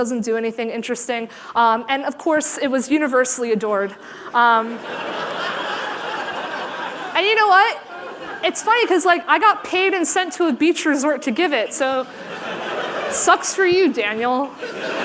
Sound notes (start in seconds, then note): 4.7 laughter